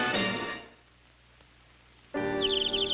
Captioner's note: birds chirping